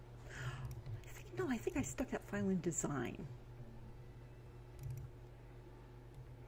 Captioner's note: gasp